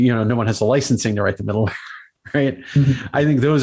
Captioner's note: laughs